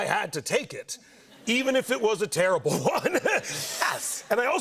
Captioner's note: laughs